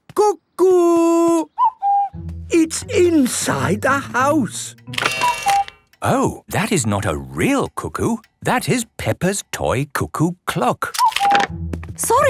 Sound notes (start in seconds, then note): 1.3 distant cuckoo; 3.8 cuckoo clock